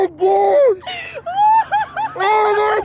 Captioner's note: laughing